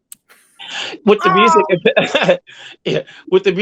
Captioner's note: laughs